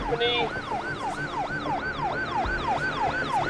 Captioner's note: siren wailing